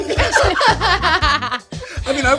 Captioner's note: all laughing